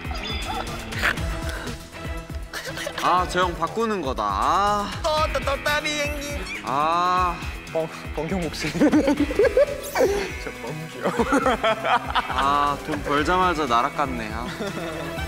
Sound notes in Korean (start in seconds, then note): 8.7 빵 터짐